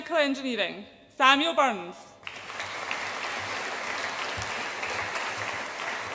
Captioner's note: audience applauds